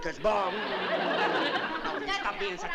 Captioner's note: laughter